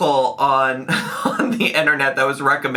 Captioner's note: laughs